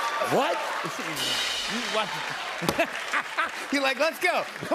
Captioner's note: cheers and applause